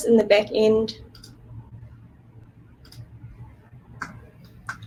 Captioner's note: mouse clicking